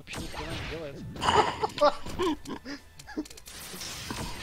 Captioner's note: laugh